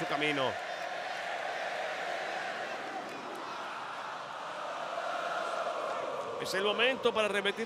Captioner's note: applause